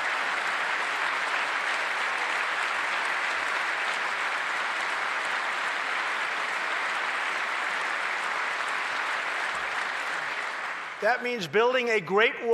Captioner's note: applause